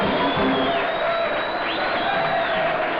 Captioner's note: cheers